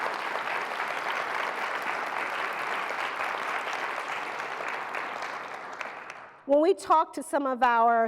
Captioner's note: applause